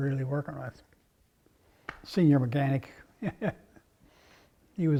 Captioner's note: laugh